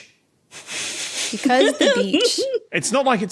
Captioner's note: snickers; giggles